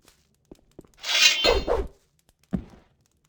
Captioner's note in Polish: odgłos wyciąganej broni na nierobów i uderzenie